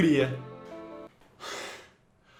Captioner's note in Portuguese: respiração aliviada